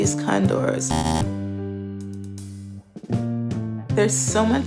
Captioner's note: error buzzer